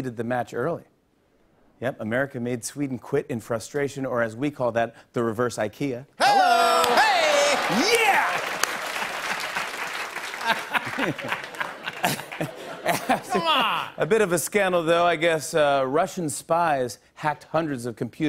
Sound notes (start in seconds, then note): 8.0 applause; 10.2 laughter